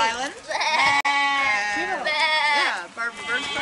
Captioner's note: children and lambs baa-ing all around